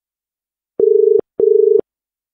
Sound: dial Tone

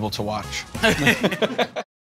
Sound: laughter

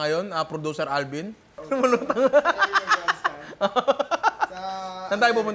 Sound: laughs

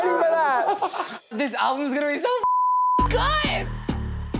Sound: beep

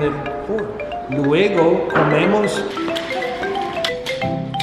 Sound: speaking Spanish

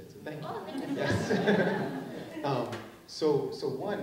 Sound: laughing

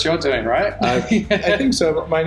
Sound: laughing

